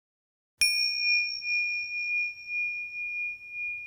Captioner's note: chime rings